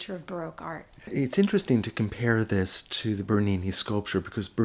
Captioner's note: voiceover